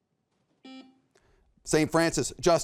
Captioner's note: buzzer beeps